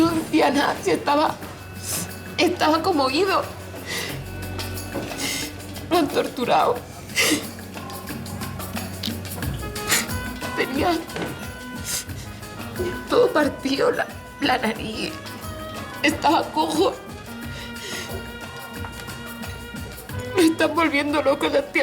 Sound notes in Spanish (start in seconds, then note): 3.7 Sollozos; 6.9 Ahoga los sollozos; 12.7 Ahoga los sollozos; 17.5 El llanto la ahoga